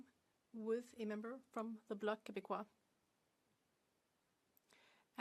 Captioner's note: speaking French